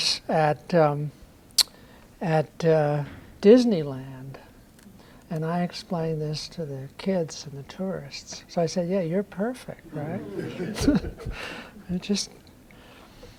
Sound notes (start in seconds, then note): 9.9 laughter